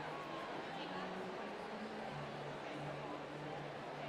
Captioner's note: none